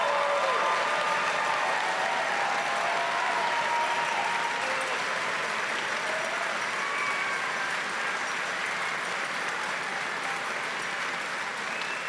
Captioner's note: cheering and Applause